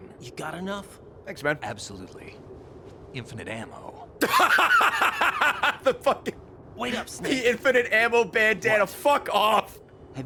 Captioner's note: laughs